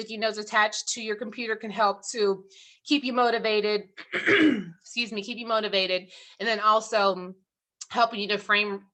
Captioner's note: throat clearing